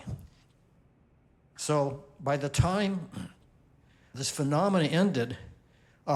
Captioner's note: clears throat